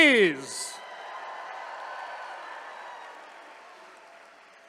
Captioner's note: attendees cheering